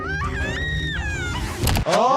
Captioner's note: Handy screaming; Petunia screaming